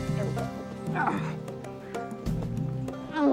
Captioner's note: Hatfield grunts; cat meows